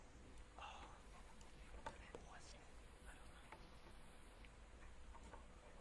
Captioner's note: Edmonson teammates whispering